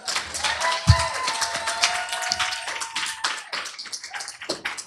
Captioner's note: applause, cheering